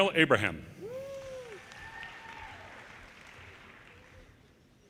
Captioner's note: audience cheers